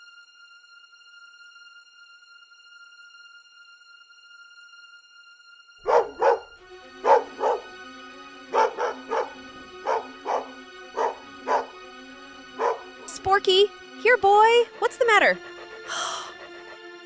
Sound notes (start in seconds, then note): 5.8 Sporkie barks at something closing in; 16.3 gasps